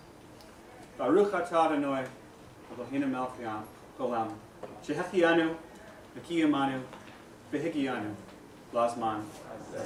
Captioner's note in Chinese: 希伯语